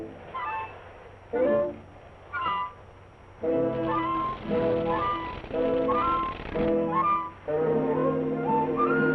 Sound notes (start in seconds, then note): 4.5 doors creaking